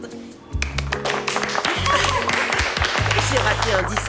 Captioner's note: applause